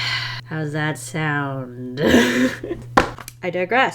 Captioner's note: laughs